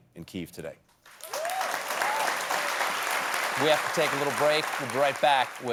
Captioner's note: applause